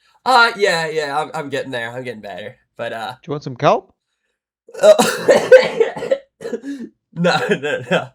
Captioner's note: laughter